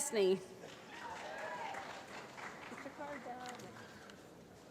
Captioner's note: applause